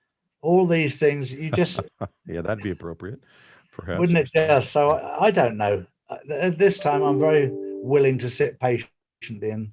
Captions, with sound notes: All these things you just. - (laughing) Yeah, that'd be appropriate, perhaps. - Wouldn't it dare so, I don't know. At this time, I'm very willing to sit patiently